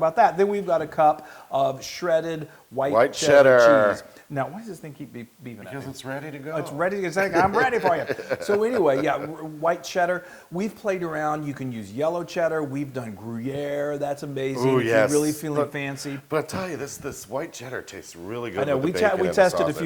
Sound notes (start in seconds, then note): 7.2 laugh